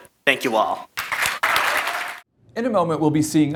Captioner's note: audience clapping